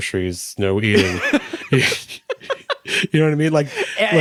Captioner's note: both laughing